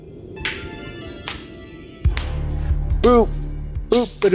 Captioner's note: Katya claps